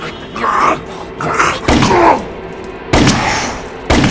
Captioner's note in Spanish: disparo de arma